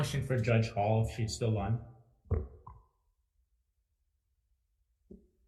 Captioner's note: microphone thuds